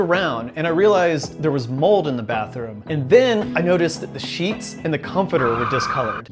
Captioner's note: tires screeching to a stop